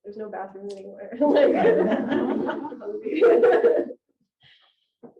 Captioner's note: audience laughing